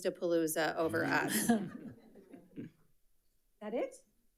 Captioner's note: audience laughs